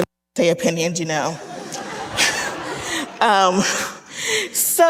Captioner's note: audience laughing